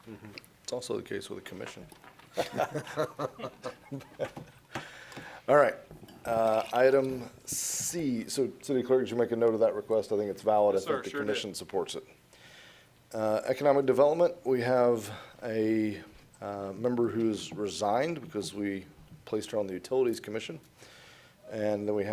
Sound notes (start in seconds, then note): 7.9 laughing